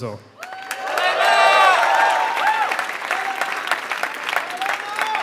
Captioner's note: applause